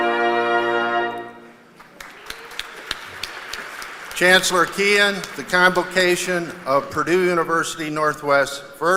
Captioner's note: cheers and applause